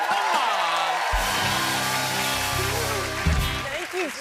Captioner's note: cheers and applause